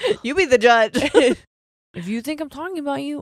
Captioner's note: both chuckle